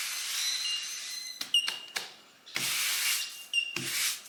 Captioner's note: taps broom